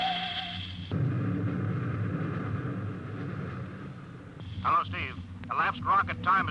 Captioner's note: beeping